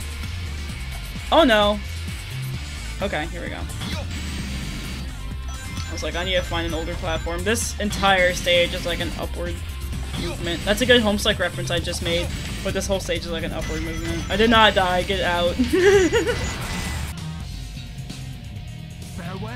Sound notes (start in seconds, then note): 15.5 chuckles